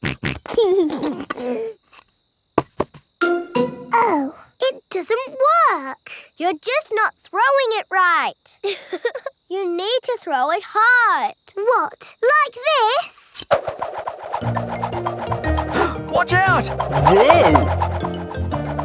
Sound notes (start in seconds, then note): 0.2 snorts and laughs; 8.7 chuckles